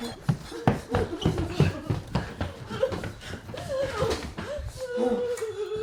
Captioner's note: Pasos golpeando el suelo; sollozando